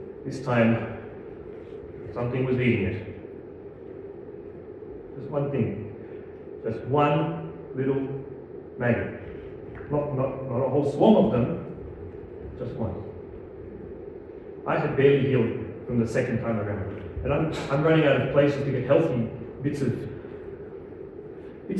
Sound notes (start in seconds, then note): none